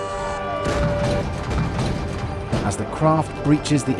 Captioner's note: cannon fire